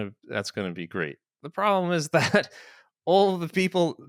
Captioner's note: chuckles